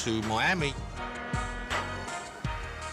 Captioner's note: ship horn blows